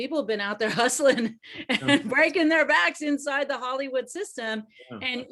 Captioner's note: laughs